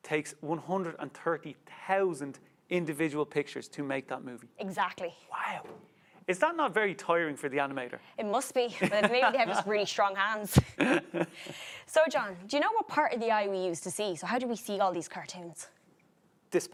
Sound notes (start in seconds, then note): 8.8 laughs; 10.6 both chuckles